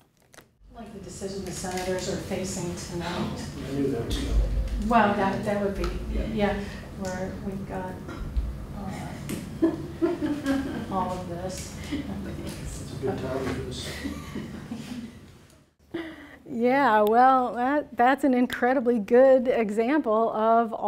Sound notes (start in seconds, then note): 9.5 laughs